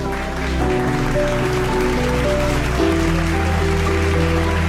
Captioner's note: audience applauding